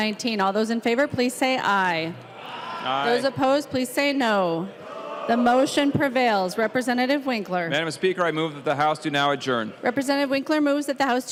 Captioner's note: chorus of ayes